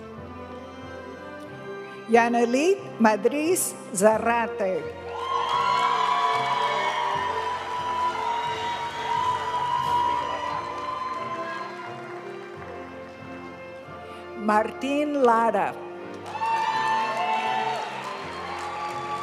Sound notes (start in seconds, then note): 5.0 audience cheering and applauding; 8.7 graduation music; 16.2 audience cheering and applauding